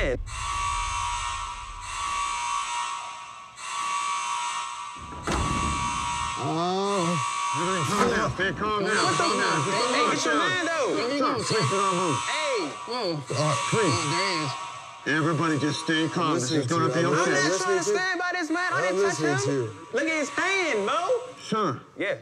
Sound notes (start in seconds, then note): 0.2 alarm blaring; 7.5 groaning